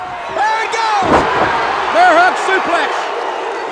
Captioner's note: audience cheers